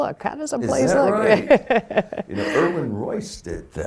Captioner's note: laughing